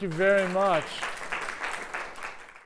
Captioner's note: applause